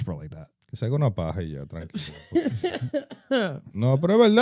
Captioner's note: speaking In Foreign Language